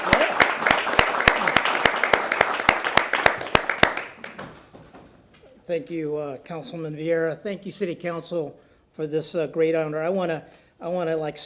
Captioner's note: applause